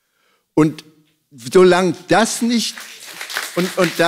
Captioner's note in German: Applaus